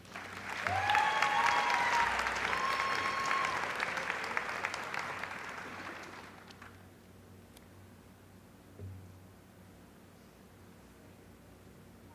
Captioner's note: applause